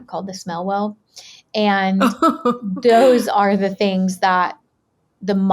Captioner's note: giggling